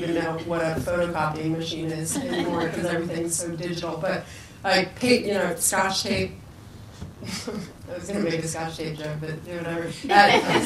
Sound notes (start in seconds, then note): 6.9 laughs; 10.0 people laugh